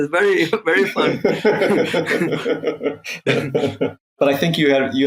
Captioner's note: laughing